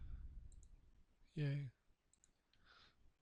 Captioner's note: softly spoken